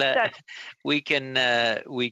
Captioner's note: laughter